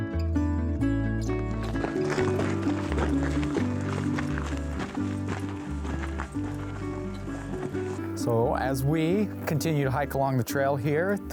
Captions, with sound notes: (gravel crunching) So, as we continue to hike along the trail here,